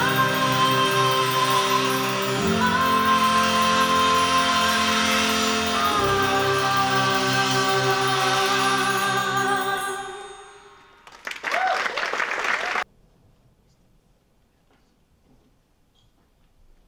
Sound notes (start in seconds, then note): 11.0 applause